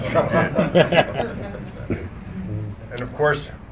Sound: laughter

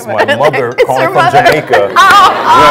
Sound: laughing

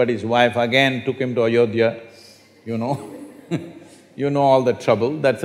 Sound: laughs

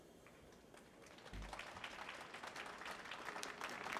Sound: applause

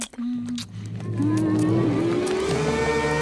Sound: moaning

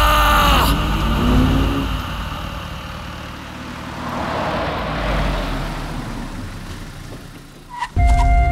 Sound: car Sound

